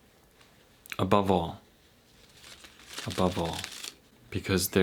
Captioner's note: cards cascading